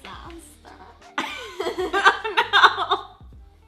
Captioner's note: laughs